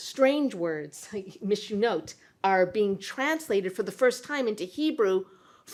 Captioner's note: non-english